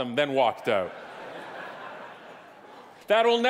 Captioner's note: audience laughing